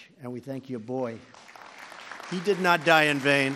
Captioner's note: applause